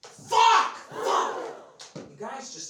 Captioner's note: audience gasps